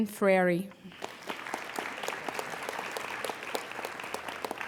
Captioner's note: applauding